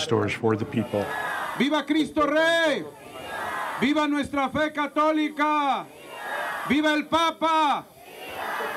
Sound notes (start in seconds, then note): 1.8 speaking in Spanish